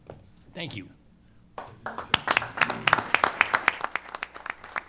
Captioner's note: applause